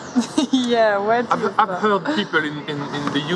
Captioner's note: laughter